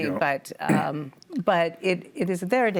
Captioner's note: coughs